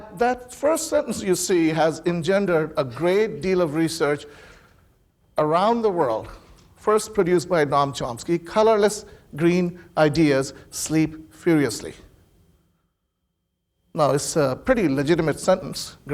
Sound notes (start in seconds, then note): none